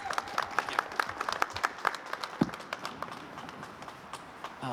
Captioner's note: applause